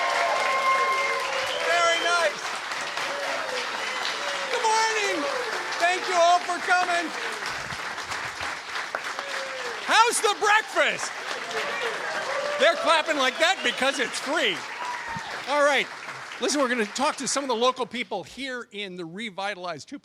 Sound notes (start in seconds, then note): 7.8 cheers and applause; 18.9 applause